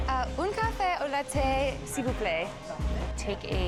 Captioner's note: speaks in French